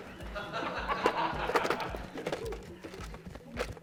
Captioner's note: laughter